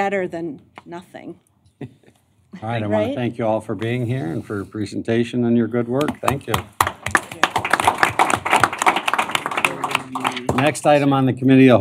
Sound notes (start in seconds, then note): 6.0 applause